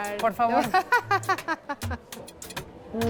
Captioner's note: laughs